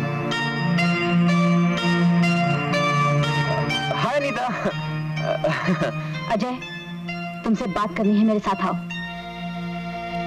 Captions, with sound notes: Hi, Anita. (Chuckles) Ajay, I want to talk to you. Come with me.